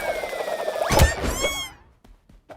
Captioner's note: wails, screams